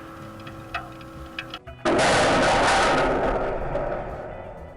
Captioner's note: loud bang